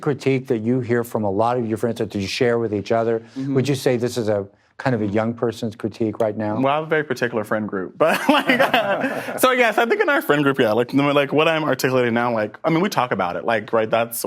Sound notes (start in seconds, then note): 8.0 both laugh